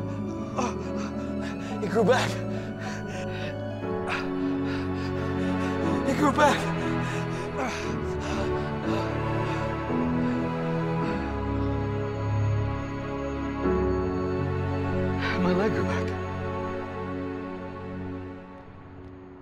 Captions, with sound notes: It grew back. [heavy breathing] It grew back! [breathing] My leg grew back.